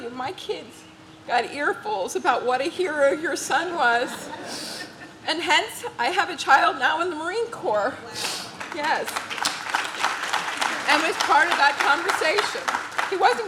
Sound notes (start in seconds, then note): 3.9 audience laughs; 8.2 audience claps